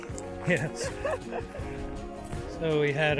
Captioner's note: laughing